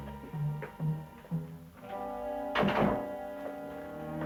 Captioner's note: door closing